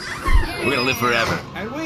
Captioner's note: opening the bathroom door